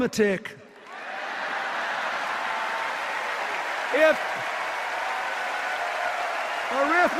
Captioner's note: sustained applause and cheers